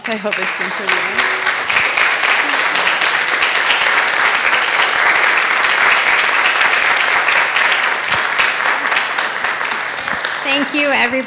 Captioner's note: audience applauds